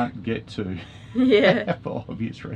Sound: laughing

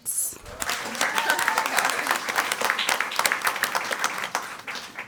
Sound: crowd cheering and clapping

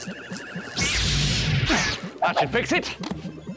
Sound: zap!

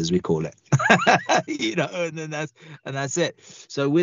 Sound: laughs

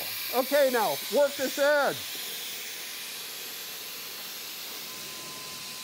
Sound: sprayer hissing

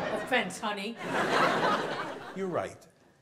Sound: audience laughs

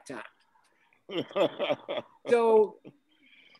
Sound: man laughs

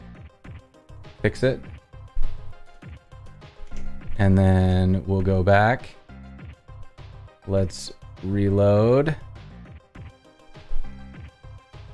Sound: footsteps

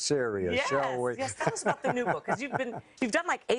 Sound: laughter

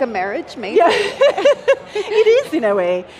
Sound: laughs

